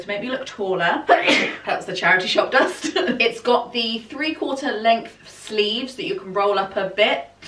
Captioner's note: sneeze